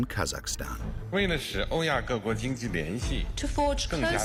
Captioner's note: Xi speaking foreign language